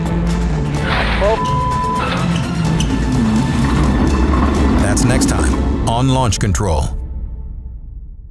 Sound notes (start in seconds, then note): 1.2 beep